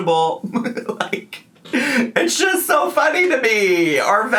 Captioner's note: laughing